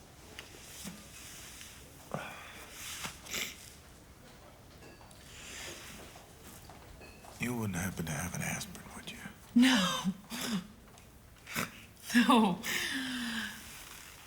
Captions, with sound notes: You wouldn't happen to have an aspirin, would you? No. [laughs] No.